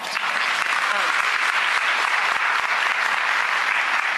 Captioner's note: clapping